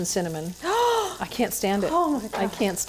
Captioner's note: gasping